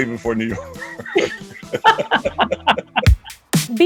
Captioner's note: laughter